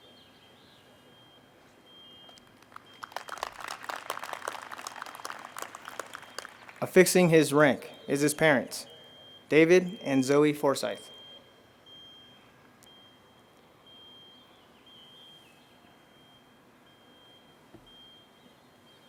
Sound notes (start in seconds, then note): 2.3 audience applauds